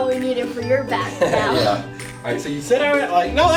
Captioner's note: laughs